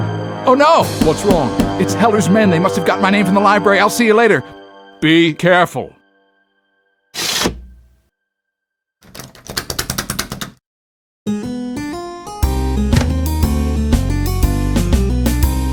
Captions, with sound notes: Oh no! What's wrong? It's Heller's men, they must have gotten my name from the library, I'll see you later! Be careful! [window slides up] [door rattling] [upbeat music]